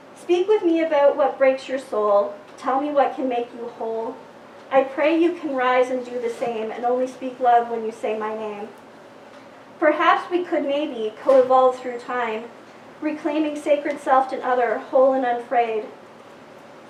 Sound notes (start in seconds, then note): none